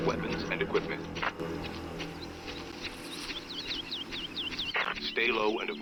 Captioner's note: birds chirping